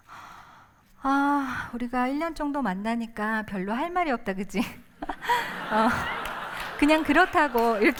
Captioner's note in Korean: 웃음